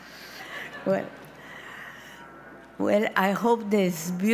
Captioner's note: audience laughs